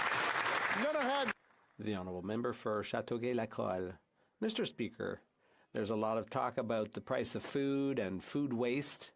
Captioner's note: speaking French